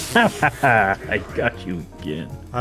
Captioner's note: laughs